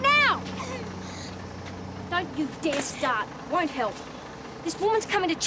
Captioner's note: daughter cries